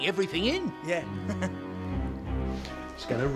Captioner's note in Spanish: risas